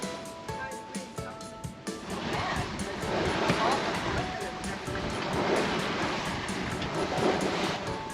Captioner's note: splashing